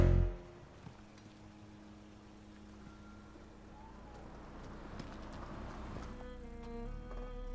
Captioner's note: engine rumbling; pensive music